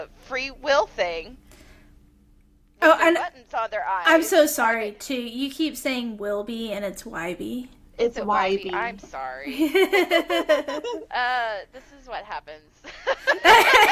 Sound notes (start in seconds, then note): 9.5 laughter; 12.8 laughter